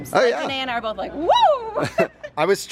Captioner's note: chuckles